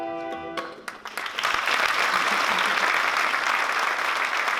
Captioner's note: applause